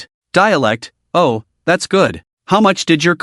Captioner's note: dialect